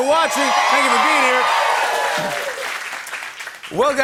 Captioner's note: cheers and applause